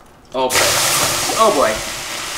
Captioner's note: water steaming